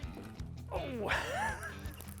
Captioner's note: groans; laughing